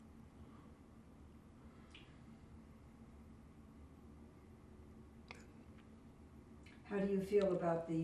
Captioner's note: pauses 6 seconds